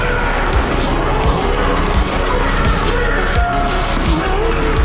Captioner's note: dramatic menacing music; Joseph shouting